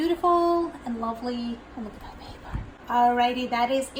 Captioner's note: wispered